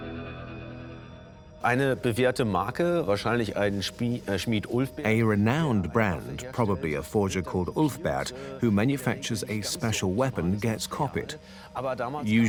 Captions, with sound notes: (in German) (dubbed in English) A renowned , probably a forger called Ulfber, who makes a special weapon, get.